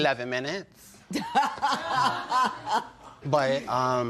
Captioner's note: laughter